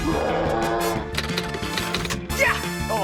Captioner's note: roars; keys clack